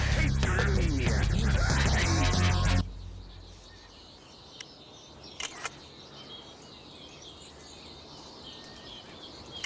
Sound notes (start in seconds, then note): 5.4 camera shutter clicking